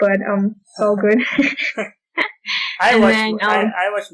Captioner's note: laughter